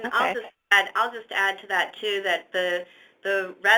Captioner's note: voiceover